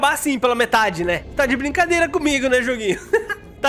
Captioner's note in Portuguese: risos